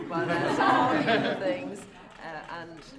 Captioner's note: laughter